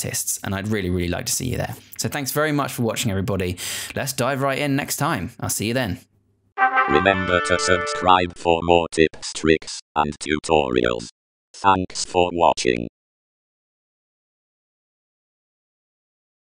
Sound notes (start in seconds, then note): 6.6 trumpet fanfare; 6.9 electronic voice